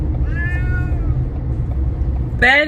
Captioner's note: meow